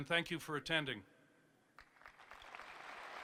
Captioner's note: applause